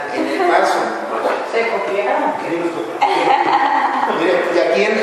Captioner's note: laughter